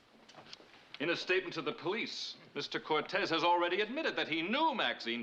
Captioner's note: none